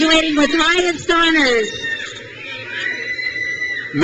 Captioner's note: crowd cheers